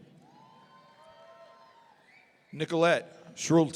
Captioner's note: audience cheering